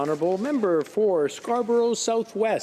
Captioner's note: some applause